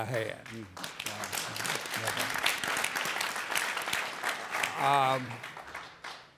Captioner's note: audience cheering and applauding